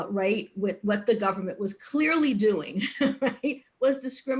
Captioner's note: laughs